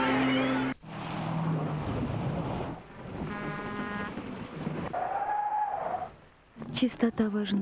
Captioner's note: brake whistle